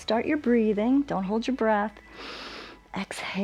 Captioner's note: exhales; inhales